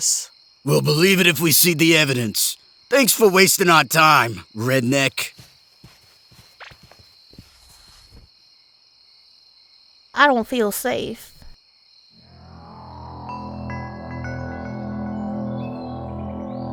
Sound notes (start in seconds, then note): 6.6 crickets; 12.4 wistful music